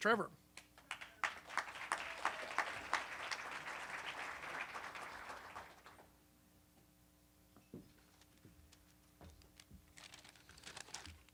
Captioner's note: applause